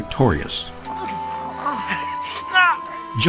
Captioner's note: groaning